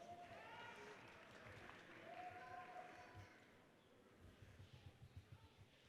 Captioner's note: audience cheers and applauds